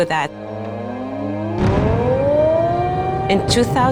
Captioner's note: siren wails